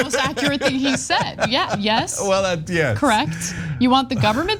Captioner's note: laugh